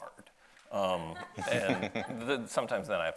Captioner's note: audience laughs